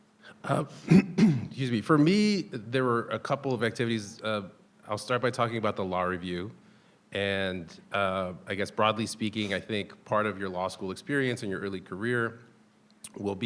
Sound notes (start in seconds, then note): 0.4 clears throat